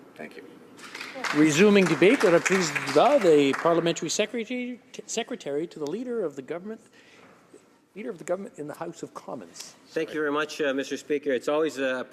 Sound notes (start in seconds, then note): 6.7 speaking french